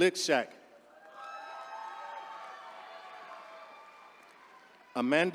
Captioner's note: attendees cheering